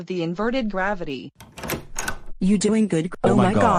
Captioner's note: door open